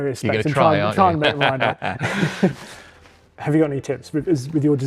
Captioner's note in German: lacht